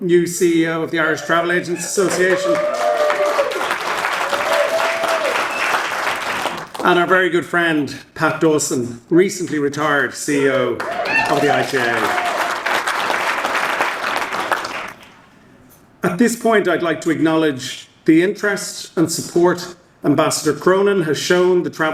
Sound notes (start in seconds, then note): 2.8 audience cheering; 10.8 audience applauding